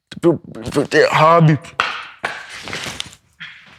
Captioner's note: footsteps